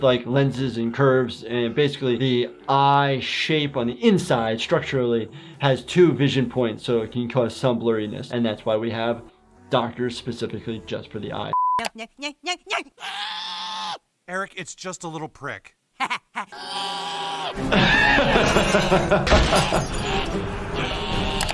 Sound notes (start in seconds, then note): 11.5 background tonal beeping; 16.4 Eric screams; 17.5 laughing